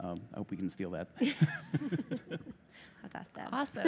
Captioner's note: laughter